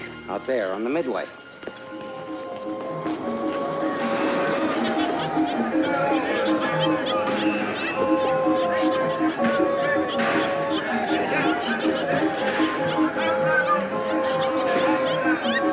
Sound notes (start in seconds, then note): 2.3 cheerful music; 2.3 people chattering